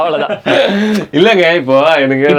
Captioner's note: group laughs